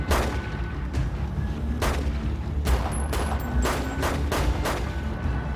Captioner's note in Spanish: Disparos